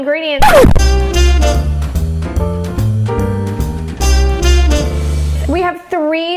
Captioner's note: record scratching; jazzy music